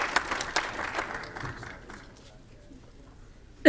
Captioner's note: applause